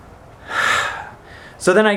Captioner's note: sighs